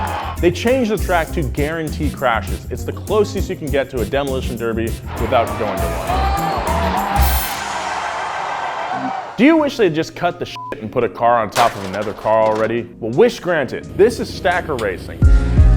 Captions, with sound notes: They change the track to guarantee crashes, it's the closest you can get to a demolition derby without joining one. Do you wish they'd just cut the (beep) and put a car on top of another car already? Well wish granted. This is stacker racing.